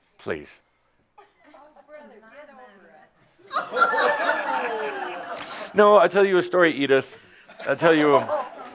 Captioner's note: laughter